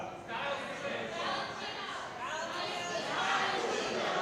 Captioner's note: crowd chattering